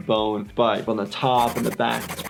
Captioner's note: scribbling noises